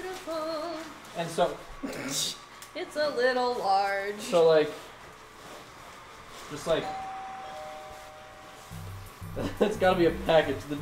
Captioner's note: doorbell rings